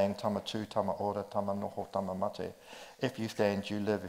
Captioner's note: speaks in foreign language